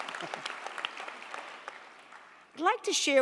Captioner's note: crowd applauding